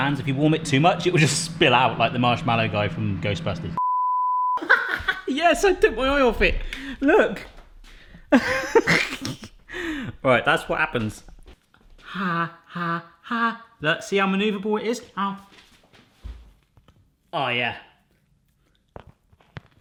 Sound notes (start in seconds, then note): 3.8 beeping; 4.6 laughing